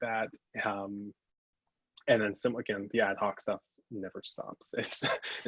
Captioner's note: laughs